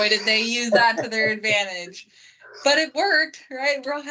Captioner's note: laughs